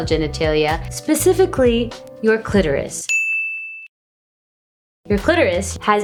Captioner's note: bell dings